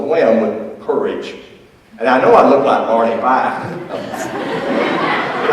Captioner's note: audience laughs